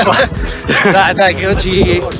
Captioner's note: laughter